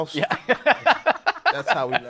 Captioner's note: laughter